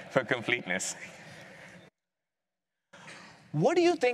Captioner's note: laughing